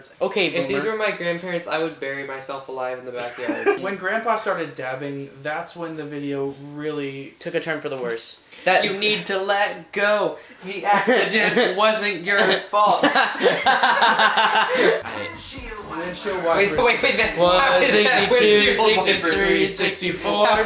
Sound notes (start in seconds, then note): 12.8 laughter; 16.7 laughing